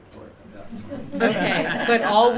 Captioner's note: laughter